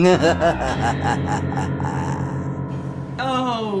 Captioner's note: laughs